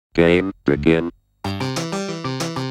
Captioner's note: automated Voice